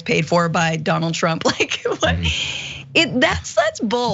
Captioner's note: laugh